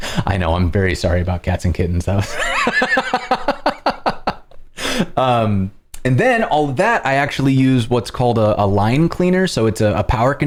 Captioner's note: laughter